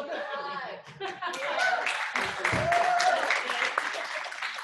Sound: clapping; applause

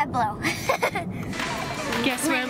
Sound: giggles

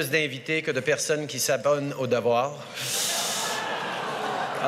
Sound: laughter

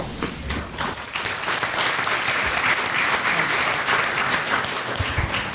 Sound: applause

